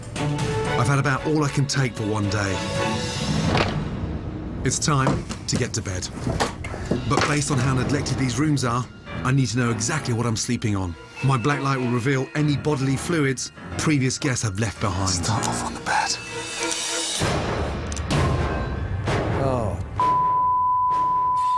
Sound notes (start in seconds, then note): 3.4 door shuts